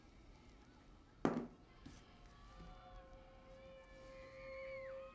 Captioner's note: clunking sound on table